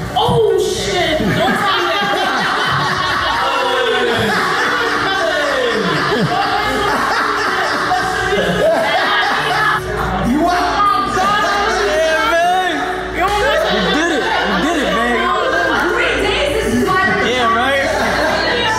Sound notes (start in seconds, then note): 2.1 crowd laughs; 18.5 crowd chattering